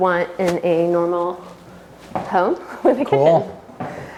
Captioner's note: laughs